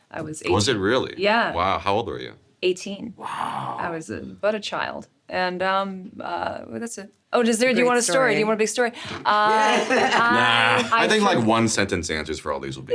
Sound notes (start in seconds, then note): 9.0 laughs